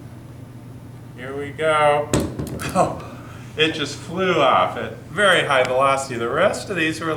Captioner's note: bouncing bum-bum-bum